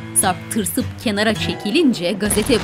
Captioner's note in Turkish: Müzik - Gitar; Vurma sesi; Patlama sesi